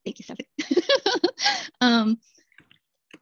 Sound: laughter

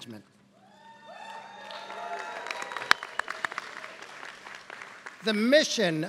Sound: applause

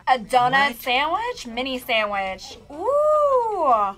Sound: gasps

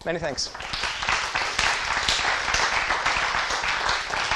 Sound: applause

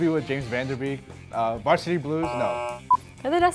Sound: buzzes

